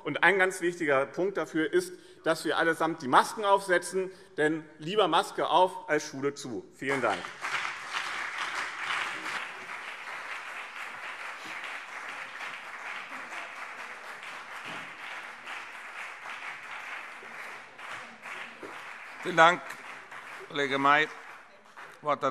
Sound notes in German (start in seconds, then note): 11.0 Lebhafter Beifall BÜNDNIS 90/DIE GRÜNEN und CDU